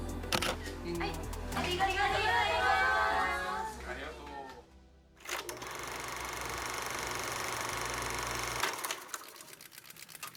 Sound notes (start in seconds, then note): 0.2 all speaking in foreign language; 2.4 camera shutters clicking